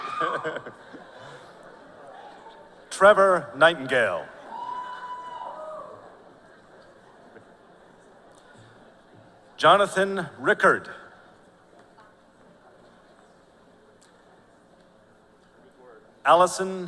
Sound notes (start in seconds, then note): 1.7 audience member screaming ow!; 4.8 laughter